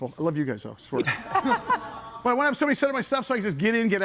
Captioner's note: group laughs